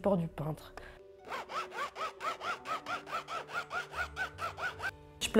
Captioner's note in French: bruit de stylo grattant la toile